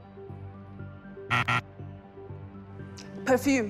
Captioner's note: incorrect buzzer